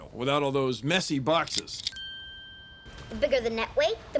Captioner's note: dings